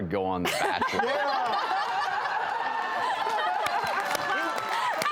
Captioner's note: audience laughing; audience clapping